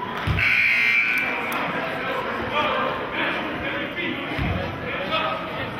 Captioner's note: cheering and buzzer sounding